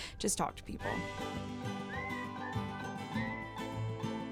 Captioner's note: whistling